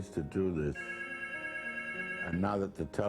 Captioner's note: phone ringing